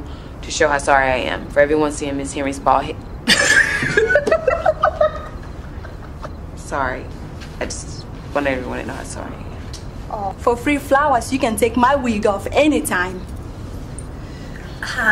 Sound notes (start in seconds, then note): 3.2 laughing